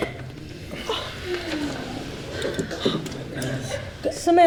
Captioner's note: members gasp